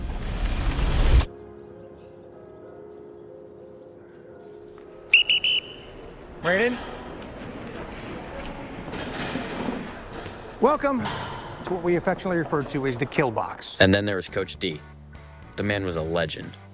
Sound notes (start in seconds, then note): 0.0 image whooshes; 1.4 birds chirping; 5.0 whistle blowing